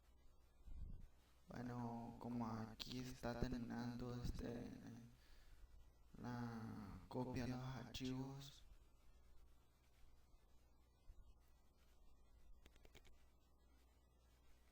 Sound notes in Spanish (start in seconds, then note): 0.5 Respiración